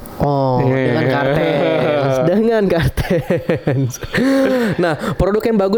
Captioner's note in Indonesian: tertawa